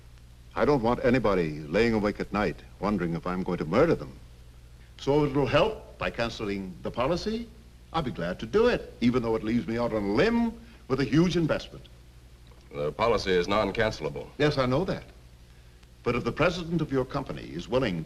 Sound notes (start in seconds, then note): none